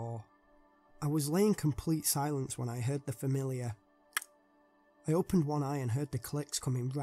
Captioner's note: click